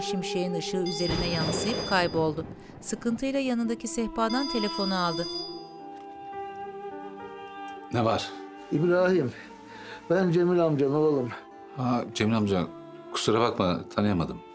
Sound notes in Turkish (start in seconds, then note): 0.8 Telefon zili sesi; 0.9 Gök gürültüsü sesi; 4.2 Telefon zili sesi